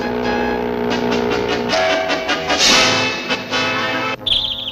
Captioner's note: crash!; bang!